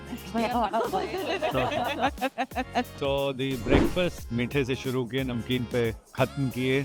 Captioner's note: laughs